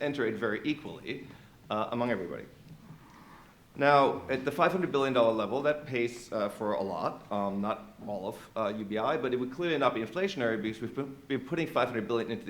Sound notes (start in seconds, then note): none